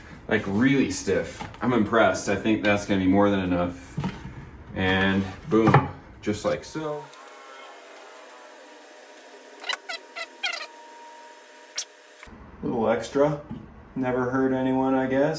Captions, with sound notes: Like really stiff. I'm impressed. I think that's gonna be more than enough. And boom, just like so. (scraping) (scraping) Little extra. Never heard anyone, I guess.